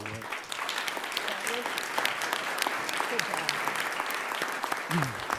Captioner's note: everyone applauding